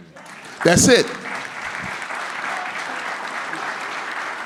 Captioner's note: audience clapping